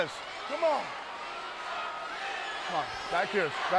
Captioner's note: audience chants